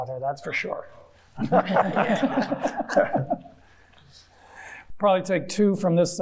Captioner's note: everyone chuckling